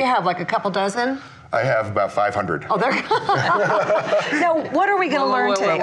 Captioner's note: laughs